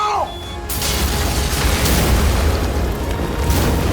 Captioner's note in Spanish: Explosión